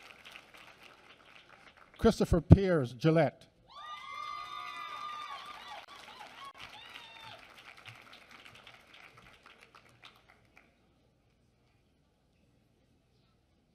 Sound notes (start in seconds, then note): 3.8 applause